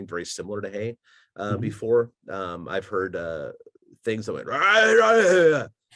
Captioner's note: gargle type sound